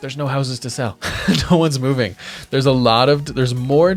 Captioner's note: chuckles